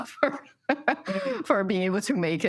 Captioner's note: laughter